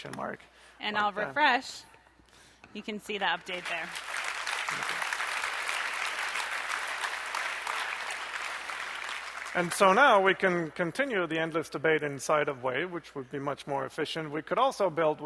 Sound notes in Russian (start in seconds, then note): 3.4 аплодисменты